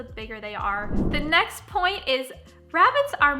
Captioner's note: whooshing